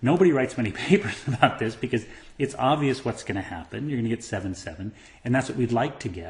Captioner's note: laugh